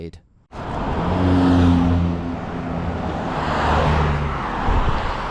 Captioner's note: car engines roaring